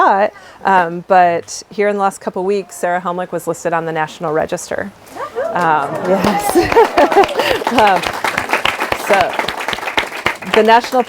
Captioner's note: applause